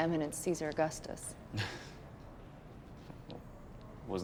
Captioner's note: laughs